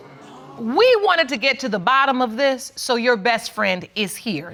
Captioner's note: audience gasps